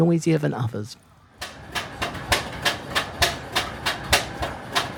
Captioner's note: clanking of machinery